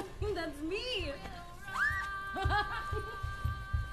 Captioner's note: ridacchiando